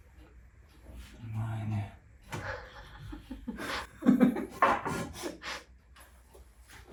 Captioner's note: laughs